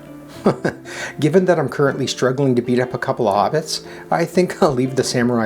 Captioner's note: chuckles